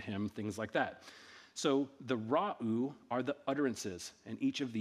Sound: speaking in ancient Egyptian

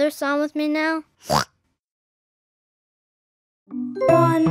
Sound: oinks

